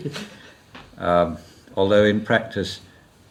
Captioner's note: laughs